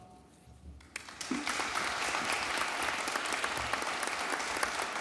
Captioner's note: audience applauding